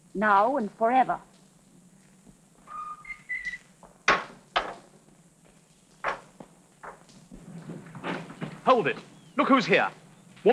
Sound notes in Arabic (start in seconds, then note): 2.6 يصفر